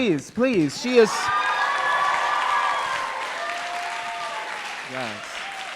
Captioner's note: crowd cheering